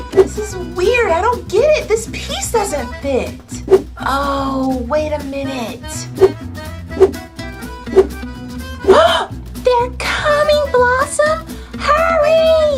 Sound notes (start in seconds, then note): 8.8 gasps